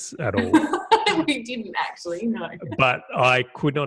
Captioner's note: laughing